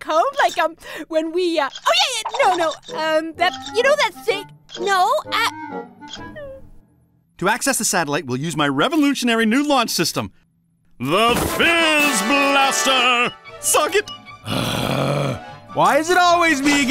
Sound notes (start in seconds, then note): 5.6 whimpers; 14.4 annoyed sigh